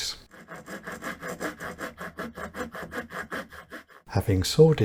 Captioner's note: sawing noises